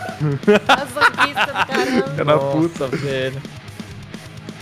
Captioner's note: laughs